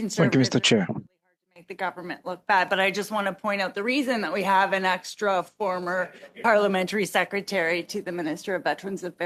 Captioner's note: speaking French